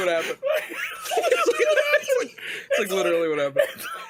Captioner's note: laughs